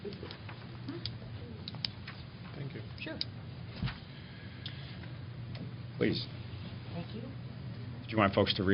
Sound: indistinct chatter

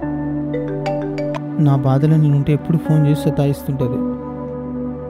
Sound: phone rings

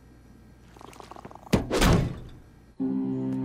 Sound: door shutting

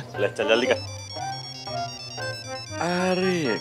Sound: phone ringing

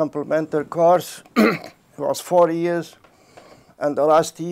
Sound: clears throat

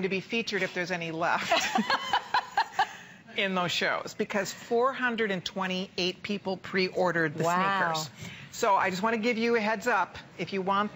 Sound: laughter

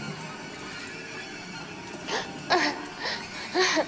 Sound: she sobs

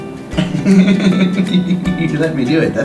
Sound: Rocky laughing

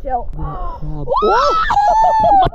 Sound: shrieks

